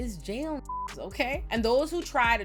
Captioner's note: beep